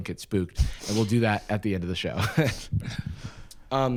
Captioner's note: laughs